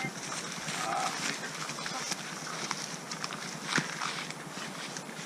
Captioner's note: tourists chattering